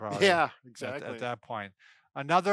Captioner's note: laughs